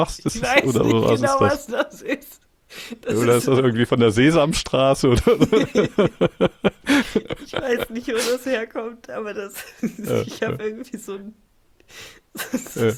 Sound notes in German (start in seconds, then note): 5.1 gelächter; 12.7 schnauben